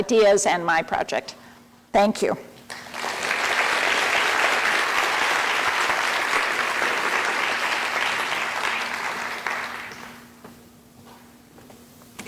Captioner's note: applause